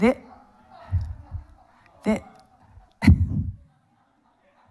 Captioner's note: audience laughs